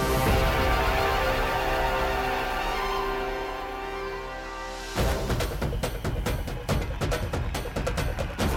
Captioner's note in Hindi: तालियाँ